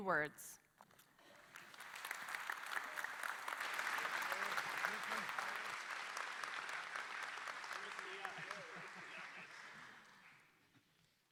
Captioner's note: applause